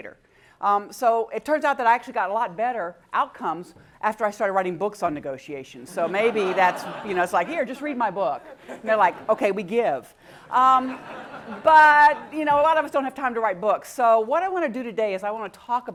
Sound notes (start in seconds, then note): 5.8 laugh